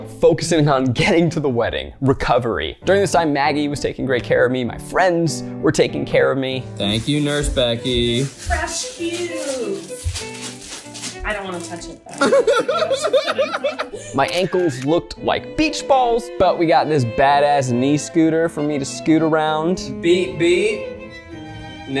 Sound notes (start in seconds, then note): 9.5 bags rustle; 12.2 laughs